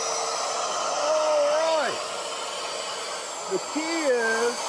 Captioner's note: saw sound ends